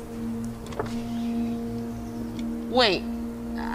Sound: window zooming

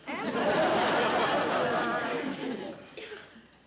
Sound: laughter

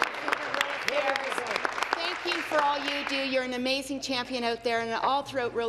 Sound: applause

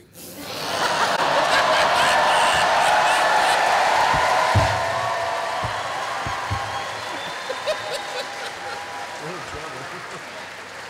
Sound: cheering

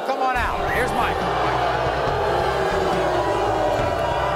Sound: audience boos

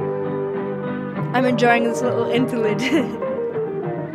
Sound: laughs

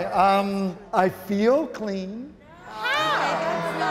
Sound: all exclaiming

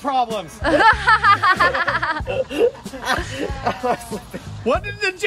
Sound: scattered laughter

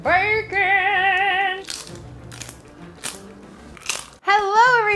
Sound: bacon crunching

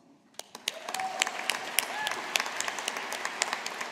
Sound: audience applauding

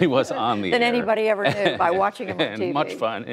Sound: laughter

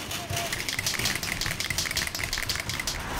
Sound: spraypaint can rattling

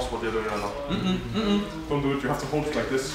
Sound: mumbles no

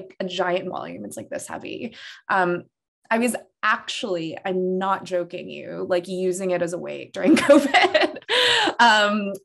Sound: laughter

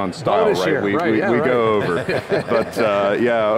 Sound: panelists laugh

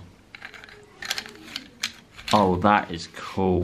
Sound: bamboo straws rattling

